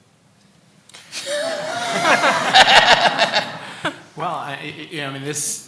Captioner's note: laughing